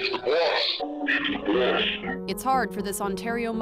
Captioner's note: audio distorted